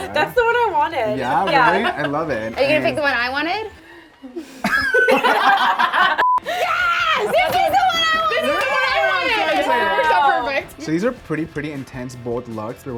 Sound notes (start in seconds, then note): 4.8 guffawing; 6.2 beep